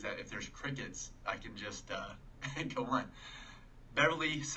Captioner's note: chuckling